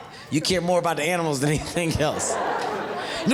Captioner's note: audience laughing